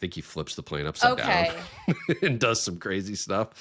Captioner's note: chuckling